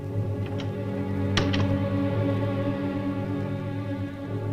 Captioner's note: door closes